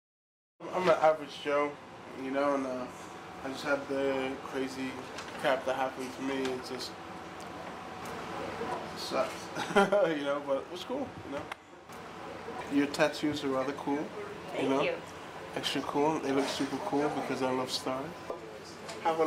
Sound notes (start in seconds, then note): 9.5 laughs